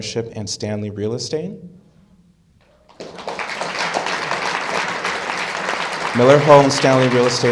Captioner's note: applause